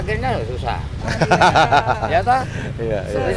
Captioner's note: laugh